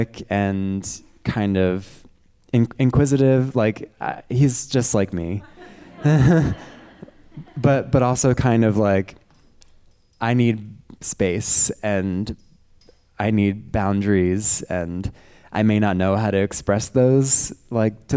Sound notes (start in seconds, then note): 5.3 chuckles; 5.4 audience members laughing